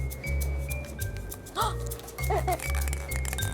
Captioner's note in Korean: 뒤적